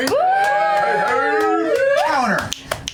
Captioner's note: cheering